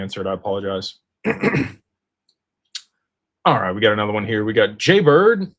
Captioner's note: clears throat